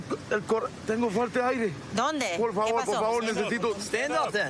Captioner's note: speaking spanish